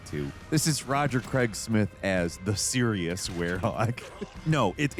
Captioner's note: laughs